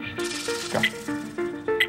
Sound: buzzer

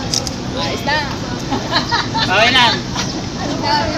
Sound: laughing in background

